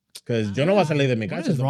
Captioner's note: speaking In Foreign Language